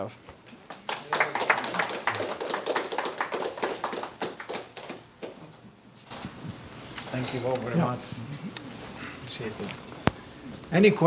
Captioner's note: audience applause